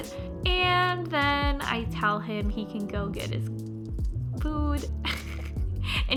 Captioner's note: chuckles